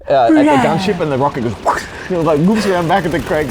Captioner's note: whooshing